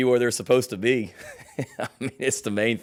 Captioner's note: laughs